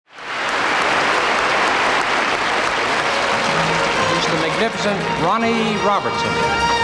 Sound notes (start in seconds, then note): 0.0 audience applauding